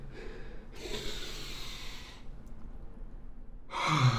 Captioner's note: Jack inhales sharply; Jack exhales deeply